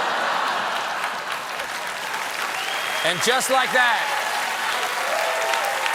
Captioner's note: laughter; applause